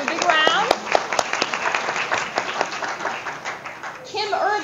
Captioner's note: audience applause